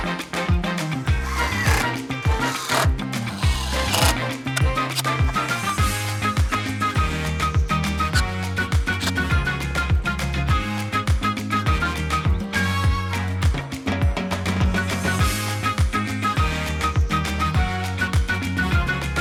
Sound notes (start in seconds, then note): 2.2 drill whirring; 14.7 lively music continues